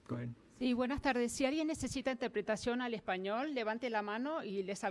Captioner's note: speaking foreign language